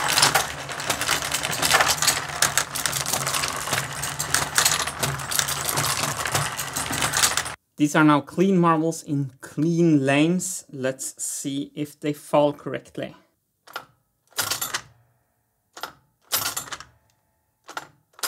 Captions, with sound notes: These are now clean marbles in clean lanes. Let's see if they fall correctly. [mechanism clicking, three times]